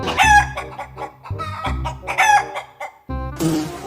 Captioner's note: chickens cluck; flies buzzing